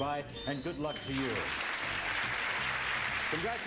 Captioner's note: applause